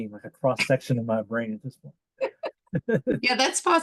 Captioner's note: laughs